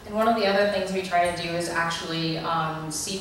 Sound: voiceover

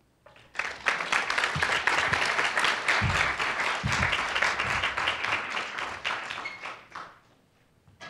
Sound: applause

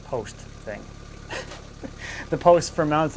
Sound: giggles

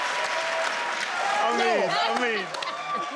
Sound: crowd cheers

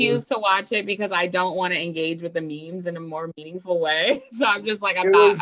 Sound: laughs

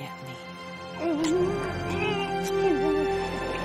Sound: muffled groaning

